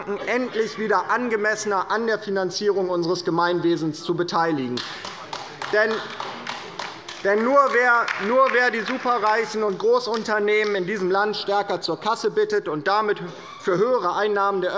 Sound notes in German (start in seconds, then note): 4.7 Beifall bei der LINKEN